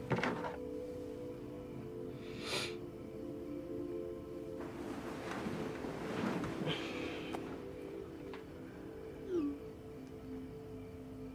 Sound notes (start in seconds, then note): 2.2 sniffles